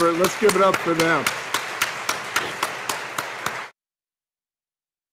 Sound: audience applauding

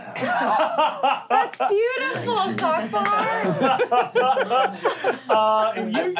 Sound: laughing

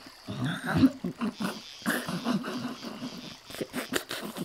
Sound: Renee grumbles

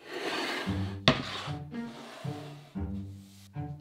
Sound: board sliding

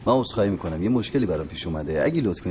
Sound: none

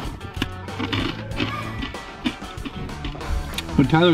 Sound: Takis crunching

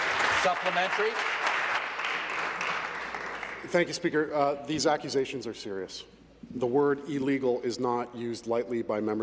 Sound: applause

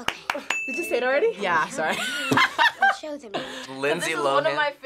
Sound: laughs

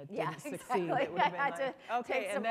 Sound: laughter

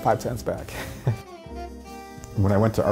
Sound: laughs

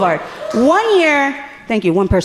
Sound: audience member cheering

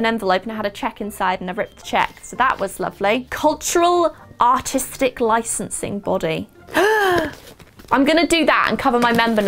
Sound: gasp

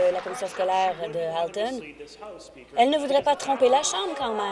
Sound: applause

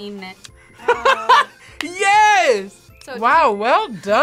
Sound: laughs

